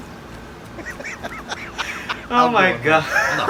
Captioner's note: laughing